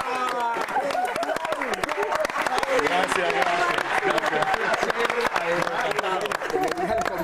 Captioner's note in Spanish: risas